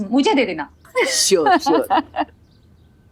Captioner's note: laughing